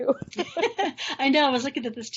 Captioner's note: both laughing